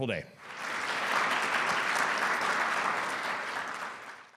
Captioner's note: audience applauding